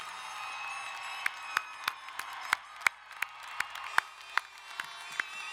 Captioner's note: crowd cheering and applauding